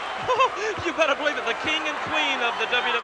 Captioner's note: laughs